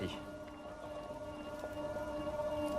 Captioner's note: soft whirring